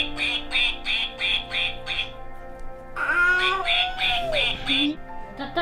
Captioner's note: duck noises